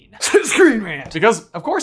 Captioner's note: feigns coughing